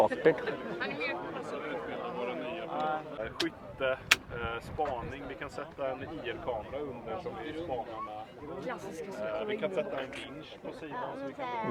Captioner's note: people speaking